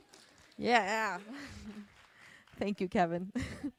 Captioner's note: audience applauding; chuckles